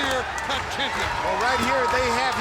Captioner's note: crowd cheering; hands clapping